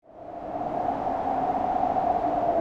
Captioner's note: wind howling